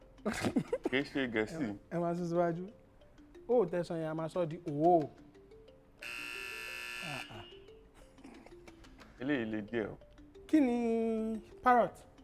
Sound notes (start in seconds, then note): 0.2 laughs; 6.0 buzzer pressed